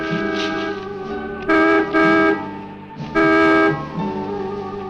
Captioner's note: dramatic music; horn honking